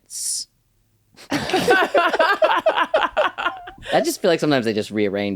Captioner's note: laughter